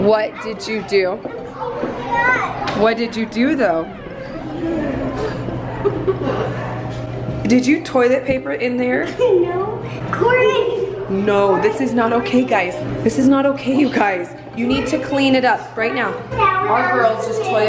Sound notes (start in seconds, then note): 4.2 giggles